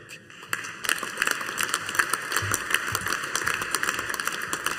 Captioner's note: audience applauding